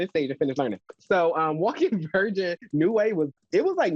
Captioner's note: chuckling